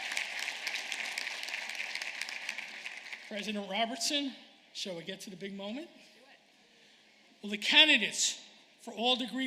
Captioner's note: applause